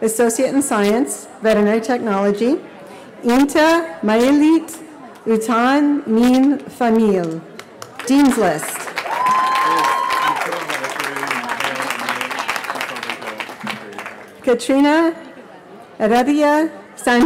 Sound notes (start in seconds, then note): 3.6 foreign language; 11.3 cheering